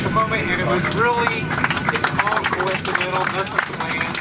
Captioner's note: applause